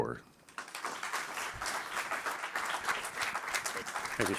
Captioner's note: applauding